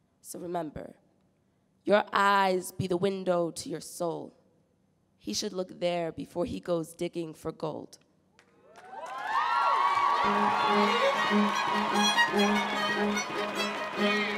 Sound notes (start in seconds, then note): 8.6 audience cheering; 11.3 bright acoustic music